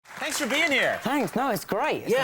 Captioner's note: audience clapping